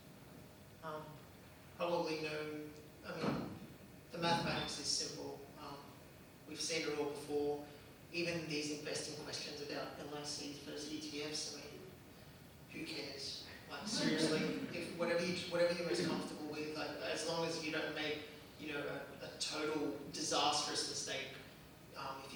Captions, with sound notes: - You probably know, I mean the mathematics are simple. We've seen it all before. Even these investing questions about LICs versus ETFs, who cares? Seriously. (laughter) Whatever you're most comfortable with, as long as you don't make a total disastrous mistake.